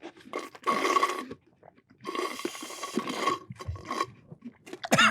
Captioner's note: slurp; coughs